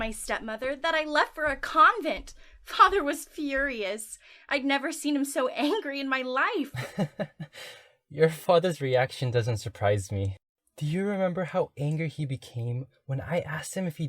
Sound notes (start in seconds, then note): 6.7 laughs